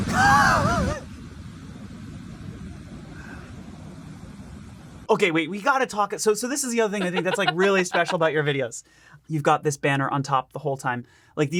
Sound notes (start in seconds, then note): 0.1 laughs; 6.8 laughs